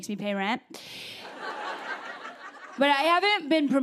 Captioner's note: laughter